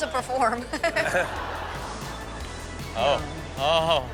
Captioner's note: audience laughs; laughs